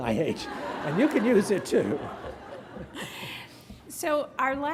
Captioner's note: graduates laughing